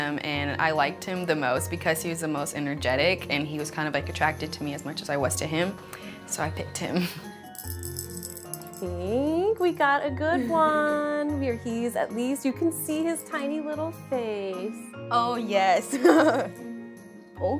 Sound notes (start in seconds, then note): 7.5 ball rattling; 15.9 laughs